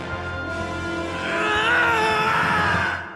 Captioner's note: kirk screams